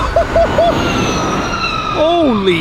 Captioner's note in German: lautes elektrisches Vorbeifahrgeräusch